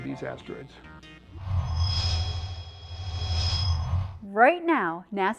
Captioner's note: sound Effects